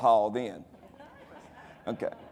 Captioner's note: audience laughing